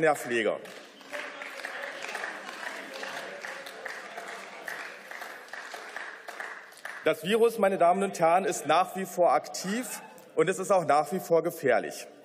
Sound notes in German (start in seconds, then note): 3.8 Beifall